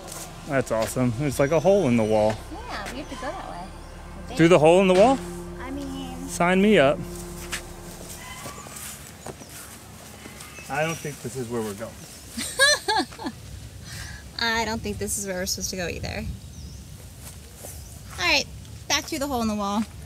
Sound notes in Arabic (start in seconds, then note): 12.3 تضحك